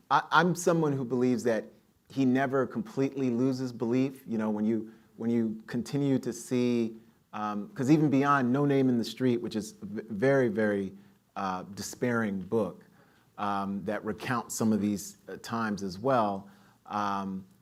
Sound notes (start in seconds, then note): none